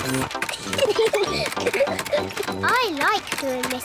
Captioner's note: giggling